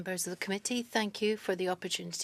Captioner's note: speaking French